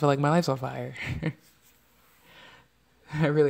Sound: laughs

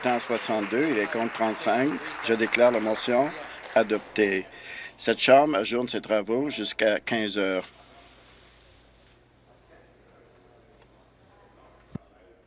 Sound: applause

